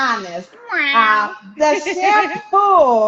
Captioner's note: chuckles